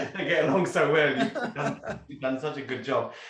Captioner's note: both laughing